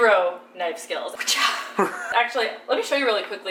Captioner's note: laughs